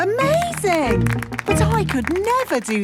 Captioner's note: clapping